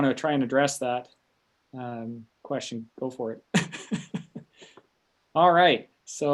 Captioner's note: laughs